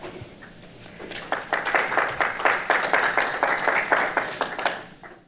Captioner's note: audience applauds